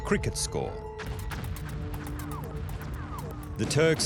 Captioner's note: gunshots